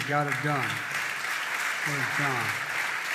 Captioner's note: applause